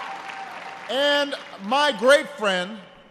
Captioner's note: applause